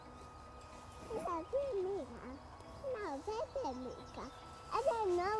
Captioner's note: speaking gibberish